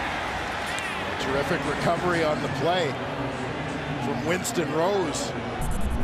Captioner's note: cheering